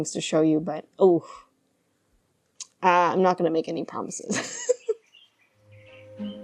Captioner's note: laughs